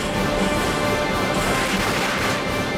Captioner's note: explosives booming; gun firing